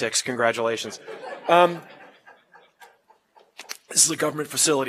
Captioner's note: laugh